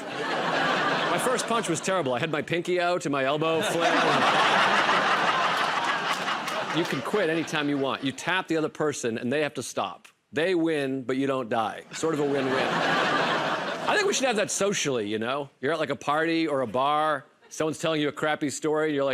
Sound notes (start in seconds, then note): 0.0 laughter; 3.6 laughter and applause; 12.0 laughter